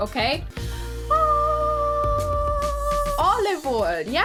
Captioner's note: makes ahhh sounds